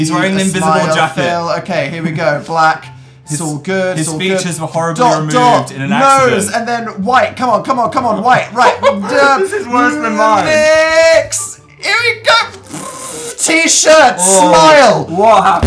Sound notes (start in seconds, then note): 8.5 laughs; 11.5 strained voice